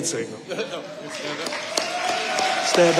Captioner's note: audience applauding